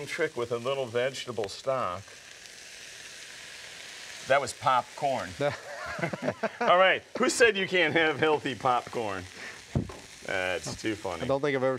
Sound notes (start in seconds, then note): 5.4 both laugh